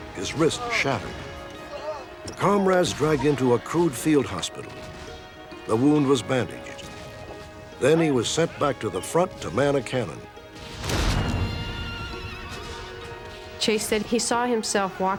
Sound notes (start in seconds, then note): 10.5 explosions; 11.1 horse whinnying